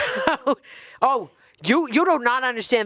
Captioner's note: chuckling